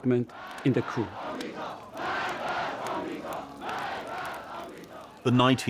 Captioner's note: people chanting